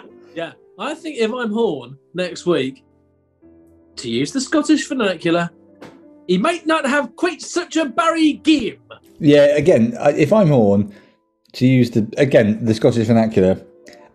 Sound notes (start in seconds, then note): 5.9 bad scottish accent